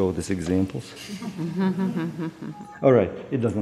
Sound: chuckling

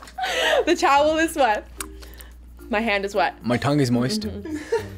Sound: laughs

